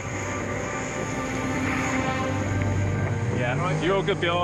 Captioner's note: boat motor purrs